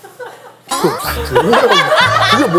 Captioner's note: laughs